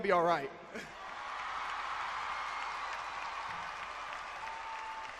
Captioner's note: cheering and clapping